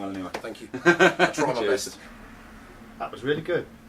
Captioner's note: laughing